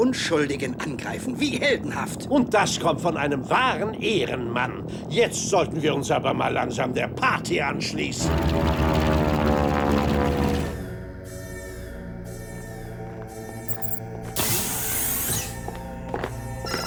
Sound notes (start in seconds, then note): 12.8 alarm blaring